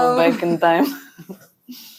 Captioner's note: laughs